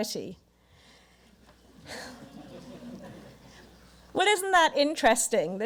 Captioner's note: audience murmurs